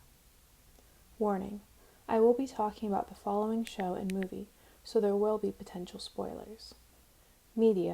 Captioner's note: remote click